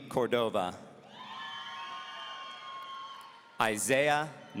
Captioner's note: audience cheering